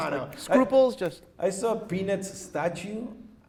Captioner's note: snaps fingers